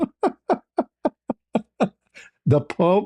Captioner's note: ketawa